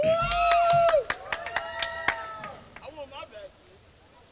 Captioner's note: crowd cheers